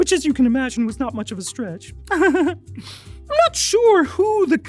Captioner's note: giggles